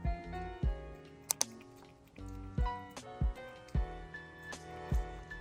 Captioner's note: slurp Slurp